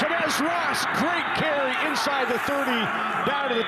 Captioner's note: fans cheer